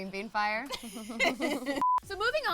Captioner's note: girls laughing